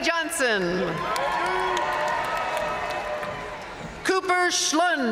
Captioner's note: audience cheering and applauding